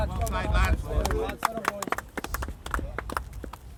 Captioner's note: applause